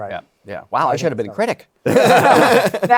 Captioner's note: laughter